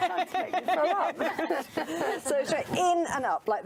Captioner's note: laughs